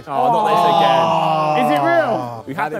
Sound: Sidemen sigh

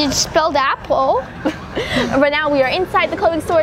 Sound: laughs

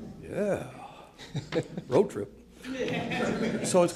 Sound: laughter

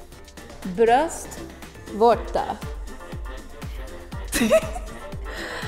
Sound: speaking in a foreign language; laughing

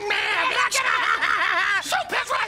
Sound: Peele laughing

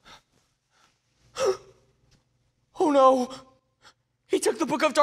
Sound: gasps

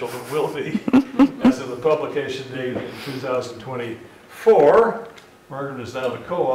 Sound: laugh

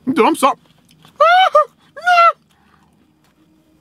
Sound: screams

